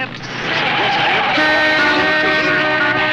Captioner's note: horns